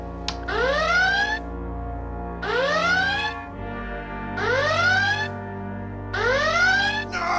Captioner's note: alarms